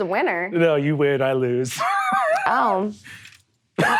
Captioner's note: laughing; laughs